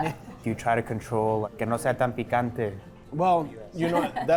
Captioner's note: laughter; in Spanish